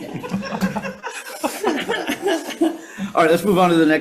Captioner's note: group laughs